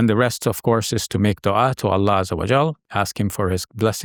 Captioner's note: speaking Arabic